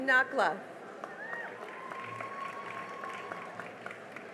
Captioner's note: cheering and applause